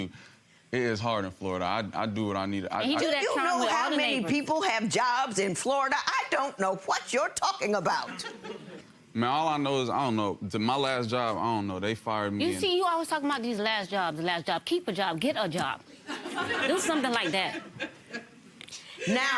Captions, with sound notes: - I'm telling you, it is hard in Florida. I do what I need to. - Do you know how many people have jobs in Florida? I don't know what you're talking about. (audience laughing) - Mam, all I know is I don't know, my last job, I don't know, they fired me... - You see he is always talking about these last jobs, last job, keep a job, get a job, do something like that.